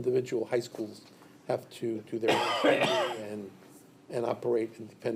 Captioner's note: coughs